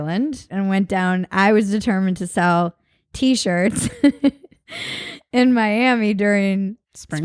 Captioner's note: laughs